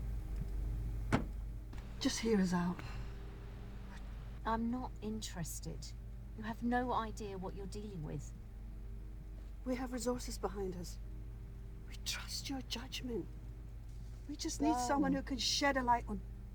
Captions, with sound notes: (door slums) Just here is out. - I'm not interested. You have no idea what you're dealing with. - We have resources behind us. We trust your judgment. We just need someone who can shed a light